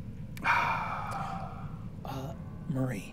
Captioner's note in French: soupire